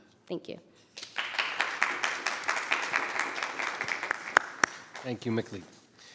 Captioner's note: members clapping